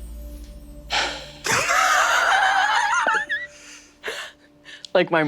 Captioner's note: sighs; laughs